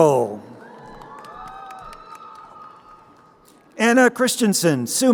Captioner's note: crowd cheering